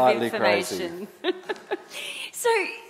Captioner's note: laughs